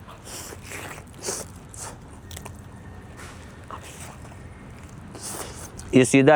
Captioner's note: eating sounds